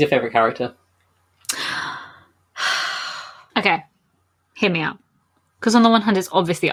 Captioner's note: sighs